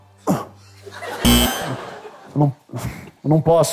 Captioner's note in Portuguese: campainha